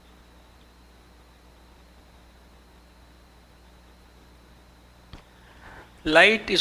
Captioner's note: no audio input